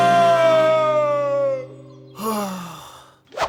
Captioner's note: sighs; moaning